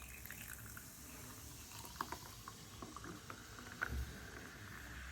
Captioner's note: loud fizzing